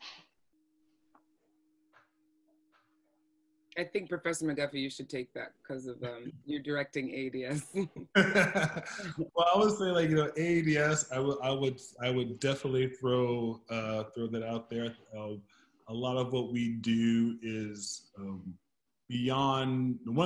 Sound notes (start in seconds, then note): 8.1 laughs